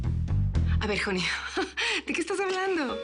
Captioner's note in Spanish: Ríe